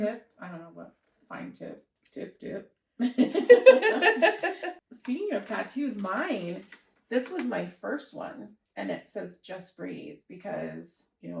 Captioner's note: laughter